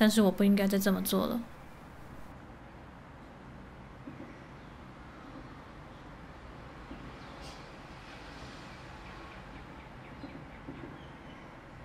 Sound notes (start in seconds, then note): 4.2 birds chirping; 6.4 train passing by in the distance